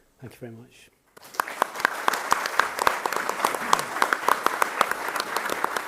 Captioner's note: audience applauding